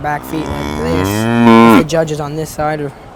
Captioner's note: cow mooing